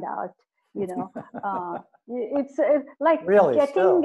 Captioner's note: laughs